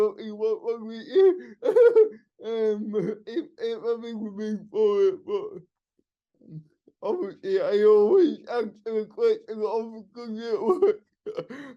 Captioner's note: laughing